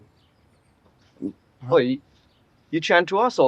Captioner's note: both stutter